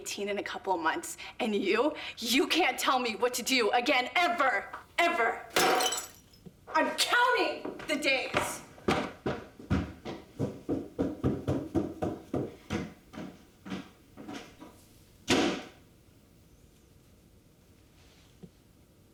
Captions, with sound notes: I AM GONNA BE 18 IN A COUPLE OF MONTHS, AND YOU, YOU CAN'T TELL ME WHAT TO DO AGAIN, EVER! EVER! [glass breaks] I'M COUNTING THE DAYS! [stomping upstairs] [door slams]